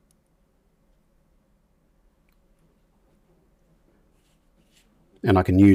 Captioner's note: silence